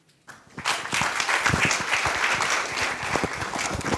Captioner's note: applause